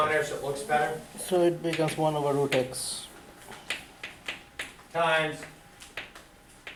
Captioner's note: voiceover